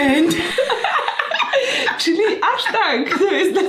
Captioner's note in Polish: śmiech